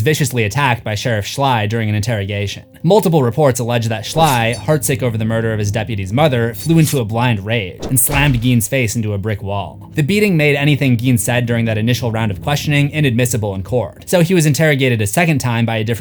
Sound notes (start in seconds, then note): 7.8 slammed